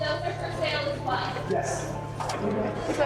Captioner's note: chatter